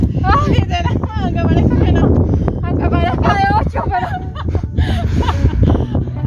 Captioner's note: laughs